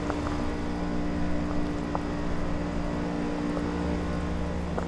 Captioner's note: footsteps clonking